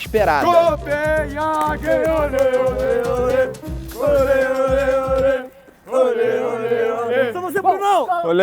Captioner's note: chanting